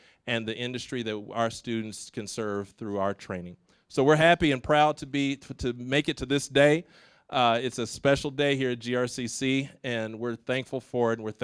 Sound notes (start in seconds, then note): none